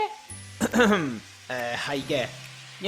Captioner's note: cough